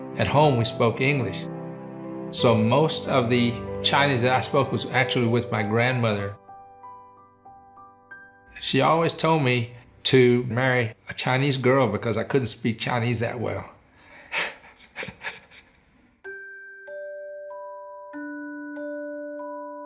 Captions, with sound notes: At home, we spoke English. So most of the Chinese that I spoke was actually with my grandmother. She always told me to marry a Chinese girl because I couldn't speak Chinese that well. (chuckles) (gentle serene music)